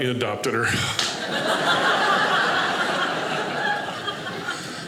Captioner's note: audience laughing